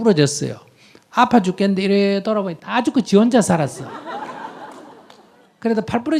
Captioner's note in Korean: 청중 웃음